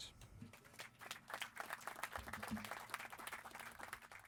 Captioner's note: clapping